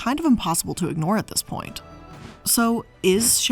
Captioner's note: air whooshing